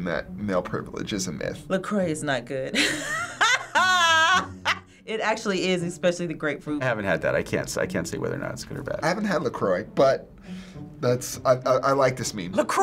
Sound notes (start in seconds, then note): 2.8 laughs